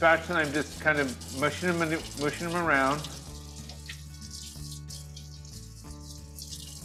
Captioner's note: water running